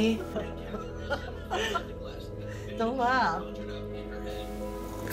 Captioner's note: laughing